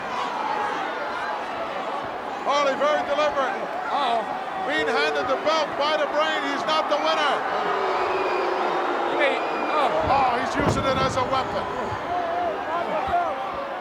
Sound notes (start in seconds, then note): 8.3 crowd boos